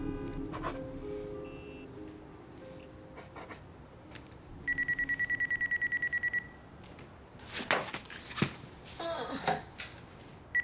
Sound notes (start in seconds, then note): 4.6 phone ringing; 9.1 groans